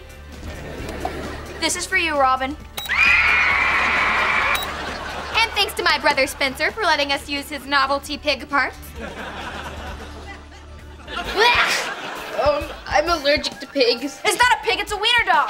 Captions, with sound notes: This is for you, Robin! [screaming] And thanks to my brother Spencer for letting us use his novelty pig parts! [laughing] Um... I'm allergic to pigs. It's not a pig, it's a wiener dog!